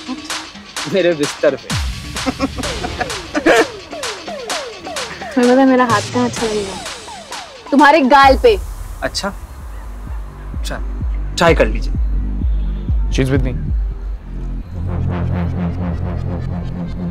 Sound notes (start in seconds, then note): 2.2 Giggling